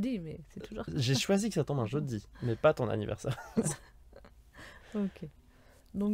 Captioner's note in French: Rires